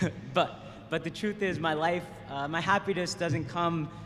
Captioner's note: laughter